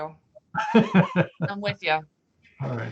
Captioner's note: laughing